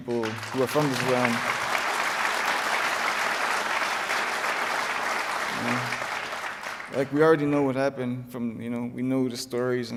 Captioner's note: applause